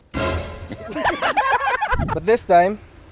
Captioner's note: boys laughing